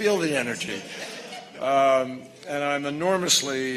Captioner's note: laughter